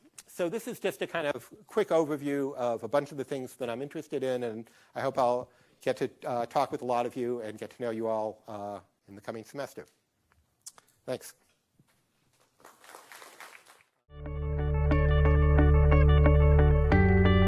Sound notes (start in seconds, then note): 12.5 class clapping; 14.2 upbeat music